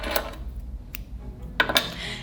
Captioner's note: scissors snip; lively music; scissors clunk